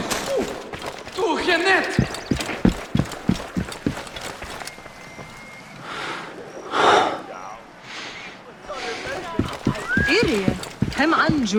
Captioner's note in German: hecheln